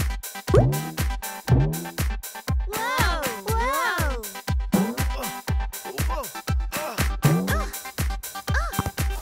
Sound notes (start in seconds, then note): 4.9 grunting; 7.0 grunting